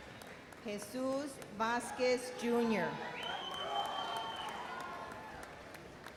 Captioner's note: audience cheers